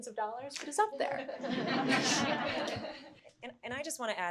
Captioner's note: everyone chuckling